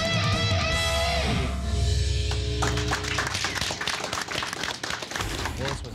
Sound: applause

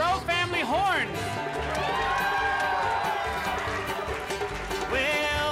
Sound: crowd cheering

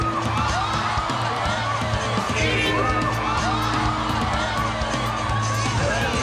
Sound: crowd shouting

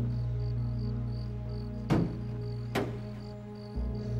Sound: <i> banging continues</i>

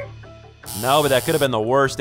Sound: buzzer

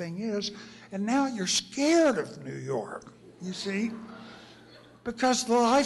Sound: laughter

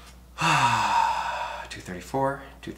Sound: sighs

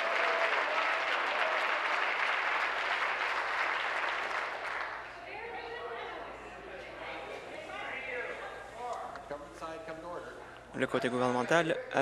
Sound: applause

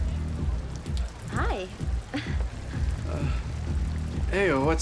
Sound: chuckles

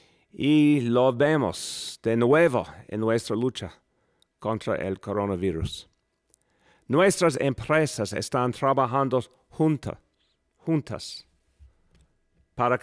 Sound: speaking non-english

